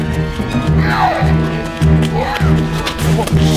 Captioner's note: growling